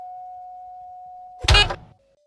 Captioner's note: bonk